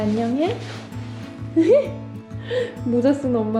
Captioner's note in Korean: 웃음